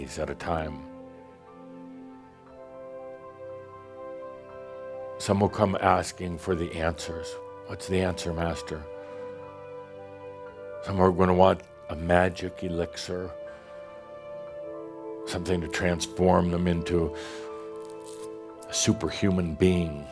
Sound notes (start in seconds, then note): none